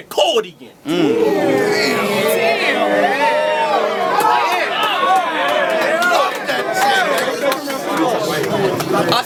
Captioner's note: guitar; crowd Reaction